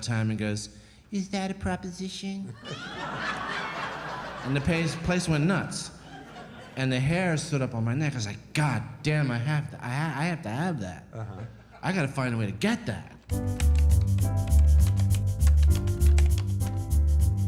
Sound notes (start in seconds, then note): 2.6 crowd laughing